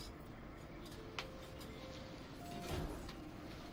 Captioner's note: door closes